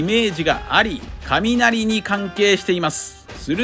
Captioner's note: thunder